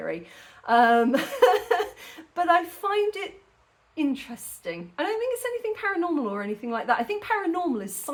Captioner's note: laughing